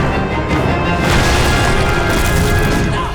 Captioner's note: grunting